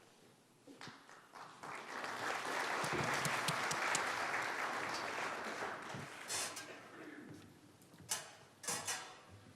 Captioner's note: applause